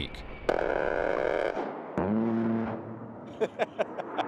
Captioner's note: roaring gunfire; laughing